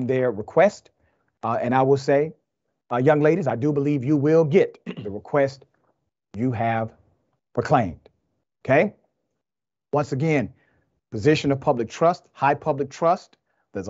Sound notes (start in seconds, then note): 4.8 cough